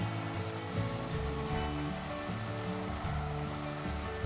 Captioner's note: buffer humming